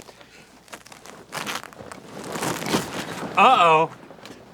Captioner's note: velcro is struggling